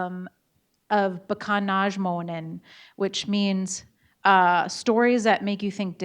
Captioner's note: speaking in Bodéwadmimwen